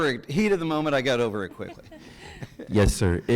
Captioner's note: person chuckles